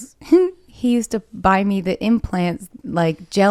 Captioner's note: giggles